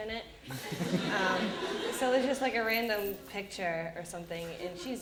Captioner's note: audience laughter